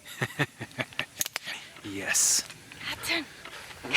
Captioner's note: laughing